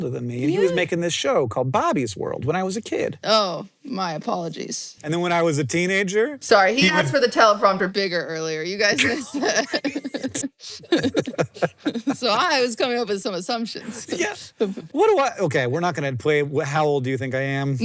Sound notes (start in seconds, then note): 10.8 both laugh